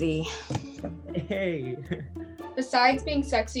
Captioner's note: giggles